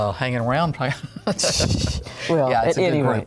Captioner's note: laughs